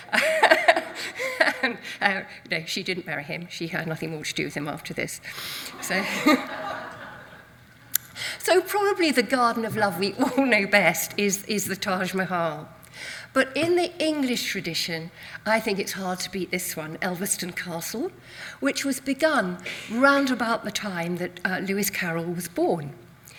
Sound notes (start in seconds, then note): 0.0 laughs; 5.7 audience laughs